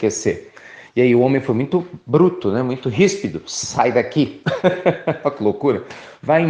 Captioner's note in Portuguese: risos